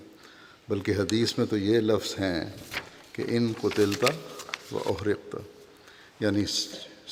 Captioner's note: Arabic